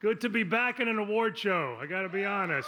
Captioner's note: applause